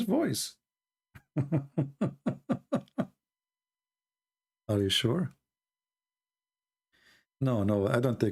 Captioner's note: Ketawa